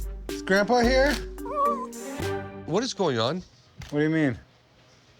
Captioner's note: dog whines